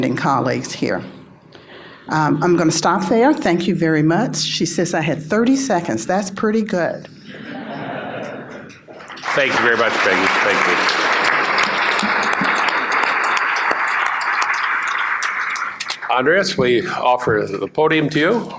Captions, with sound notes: colleagues here. I'm going to stop there. Thank you very much. She says I have 30 seconds. That's pretty good. [laughter] Thank you very much Peggy, Thank you. Andreas? We offer the podium to you.